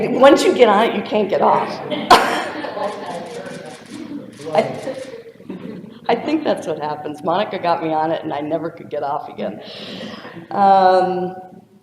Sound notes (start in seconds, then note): 0.0 audience member speaks off-microphone; 1.8 laughter; 3.4 audience member speaks off-microphone